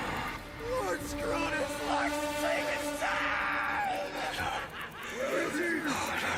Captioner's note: Max muttering; laughs